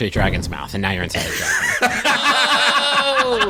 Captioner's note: laughter